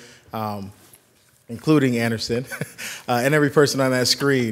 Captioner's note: chuckles